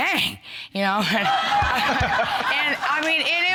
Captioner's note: audience laughing